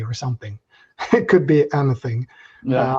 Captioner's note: chuckles